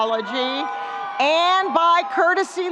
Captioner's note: students cheering and screaming